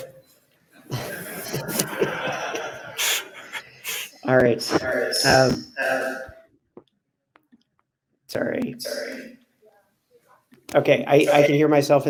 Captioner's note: laughter